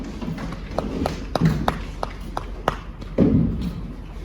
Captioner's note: light applause